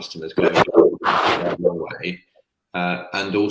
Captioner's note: voice muffling